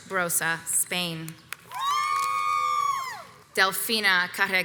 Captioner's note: crowd cheers